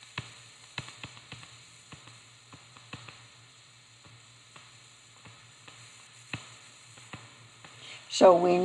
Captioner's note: long pause